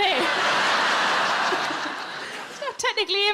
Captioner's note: audience laughing